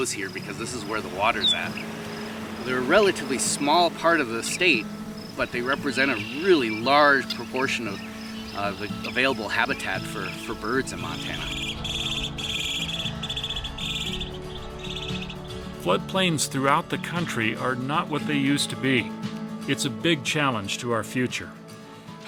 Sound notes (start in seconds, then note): 11.6 birds chirping